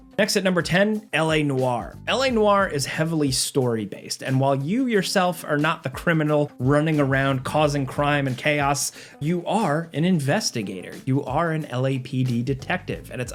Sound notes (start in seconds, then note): none